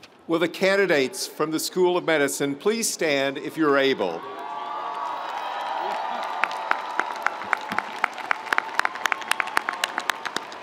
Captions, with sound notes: - Will the candidates from the School of Medicine please stand if you're able? (audience cheering) (audience applauding)